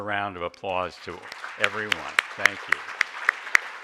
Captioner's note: audience applaud